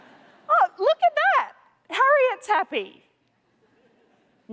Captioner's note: laughter